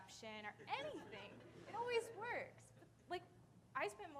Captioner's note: audience laughing